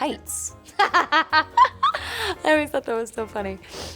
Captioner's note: laughing loudly